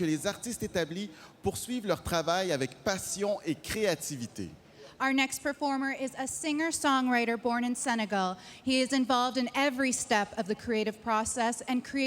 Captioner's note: speaking French